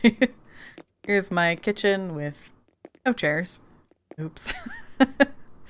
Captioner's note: laughs